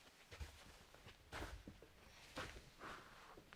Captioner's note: none